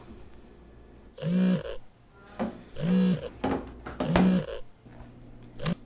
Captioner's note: phone vibrating